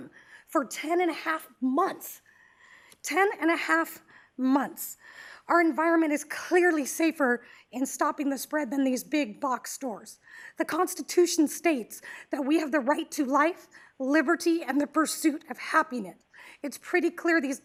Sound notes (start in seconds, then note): none